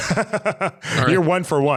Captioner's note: laughing